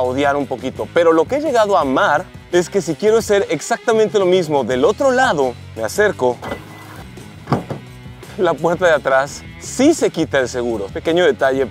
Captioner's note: beeps